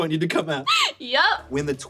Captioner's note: chuckles